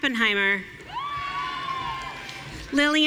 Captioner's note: audience cheering